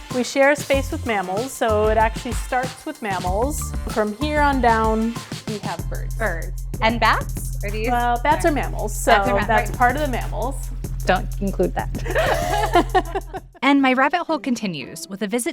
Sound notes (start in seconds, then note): 11.9 laugh